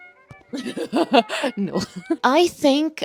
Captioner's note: old smokers laugh